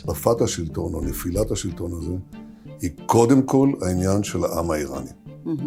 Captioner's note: Netanyahu speaks foreign language